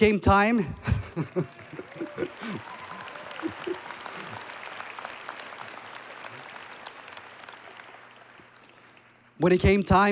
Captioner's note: applause And Cheering